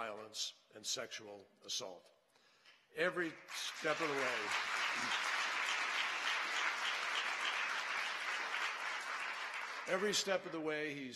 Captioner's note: applause